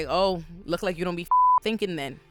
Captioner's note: beep